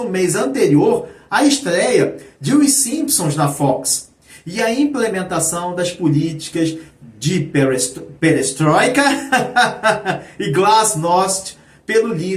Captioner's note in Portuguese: risadas